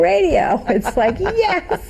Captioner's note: laughing